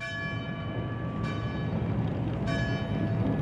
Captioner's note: bells ring